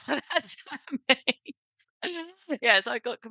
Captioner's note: laughs